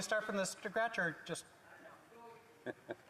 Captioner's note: speaking French